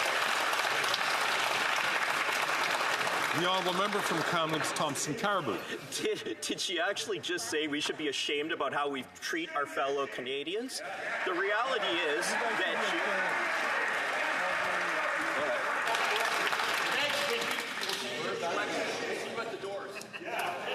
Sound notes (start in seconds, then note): 5.6 some Applause